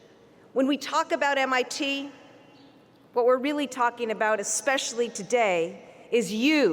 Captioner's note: none